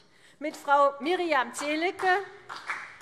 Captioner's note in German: Beifall CDU